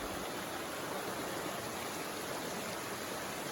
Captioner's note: river flowing